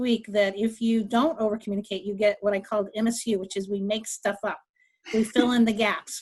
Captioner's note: laughter